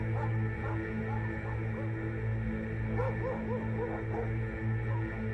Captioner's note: sobbing; dogs barking